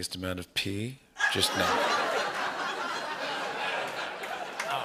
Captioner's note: laughter